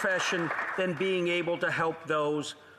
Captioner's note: applause